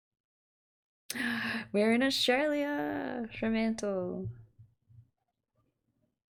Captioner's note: gasp